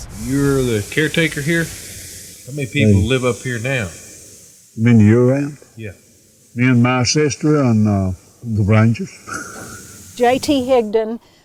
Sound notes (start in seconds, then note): 9.2 laughs